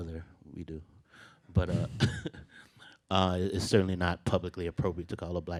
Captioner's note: laughs